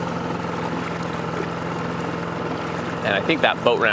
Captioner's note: boat engine chugging